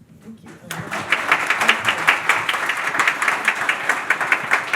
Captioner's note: audience applauds